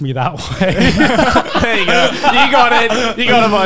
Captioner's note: laughing